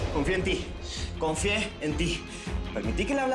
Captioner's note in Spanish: none